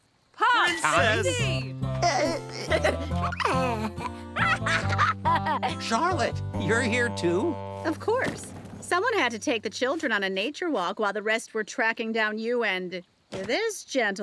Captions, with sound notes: - Pups. - Recess. [chuckles] [laughing] Charlotte, you're here too? Of course. Someone had to take the children on a nature walk while the rest were tracking down you and this gentleman.